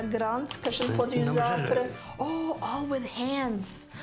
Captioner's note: speaks in foreign language